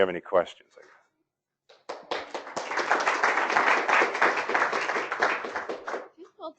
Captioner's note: applause